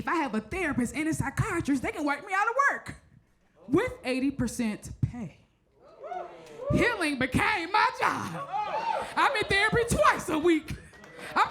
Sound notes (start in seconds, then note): 5.8 crowd members cheer